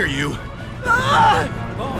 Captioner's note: trevor screams